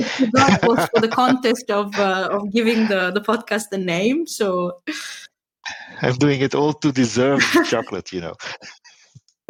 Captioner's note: laughing